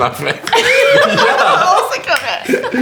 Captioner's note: laughter